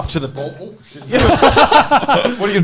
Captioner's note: laughing